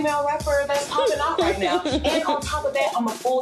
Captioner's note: Wendy laughs